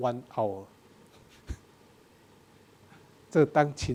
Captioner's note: laughs; speaking in a foreign language